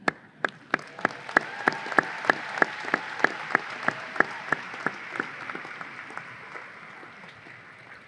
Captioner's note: audience applause